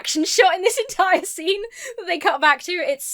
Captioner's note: laughs